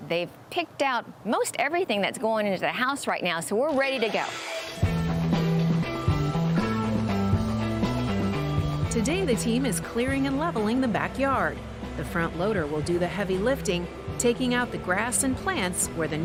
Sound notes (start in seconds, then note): 4.4 engine roars; 5.2 upbeat music